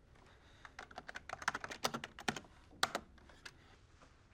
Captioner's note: typing